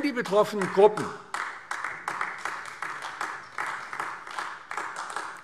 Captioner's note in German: Beifall AfD